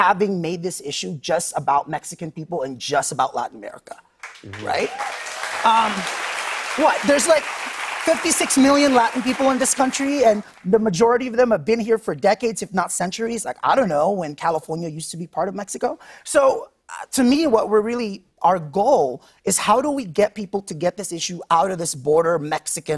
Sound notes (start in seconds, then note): 4.2 applause